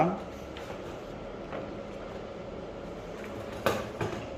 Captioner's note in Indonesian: suara kertas pelindung